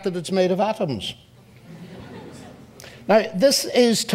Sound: audience laughs

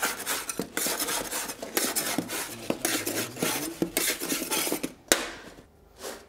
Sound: spatula scraping

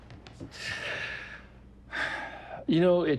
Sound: sighs

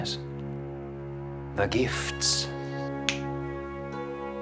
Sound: snaps

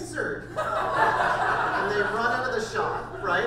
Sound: audience laughter

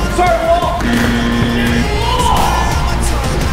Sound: buzzer

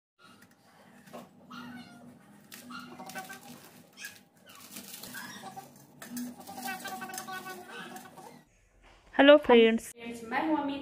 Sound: crispy DOSA breaking sound

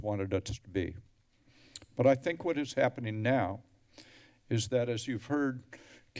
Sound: tongue clicks

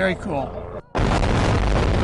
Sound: explosion sound

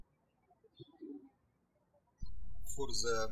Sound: birds chirping

